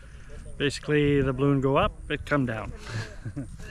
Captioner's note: laughs